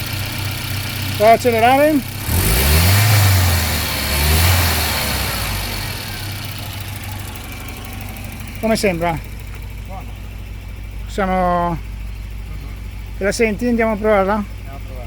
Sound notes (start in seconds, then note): 0.1 engine running well; 7.5 accelerated, engine revving